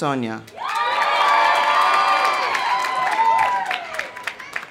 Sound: audience applauding; audience cheering

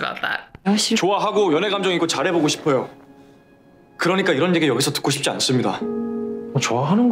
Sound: speaking Korean

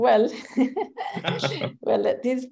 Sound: laughter

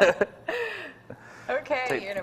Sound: laughs

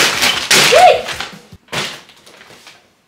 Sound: yelps

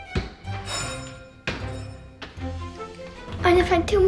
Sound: bell ringing

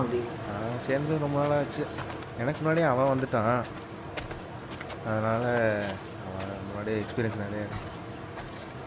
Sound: chatting

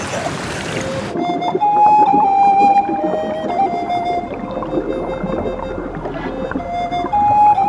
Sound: water bubbling; serene music

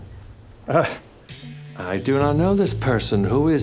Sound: laughs

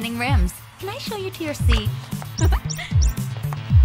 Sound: chuckles

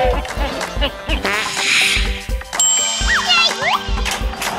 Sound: whistle; fart

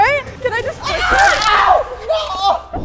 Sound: screams; egg cracking

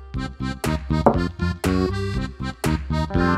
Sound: places cup loudly on the table

